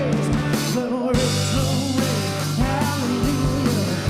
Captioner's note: none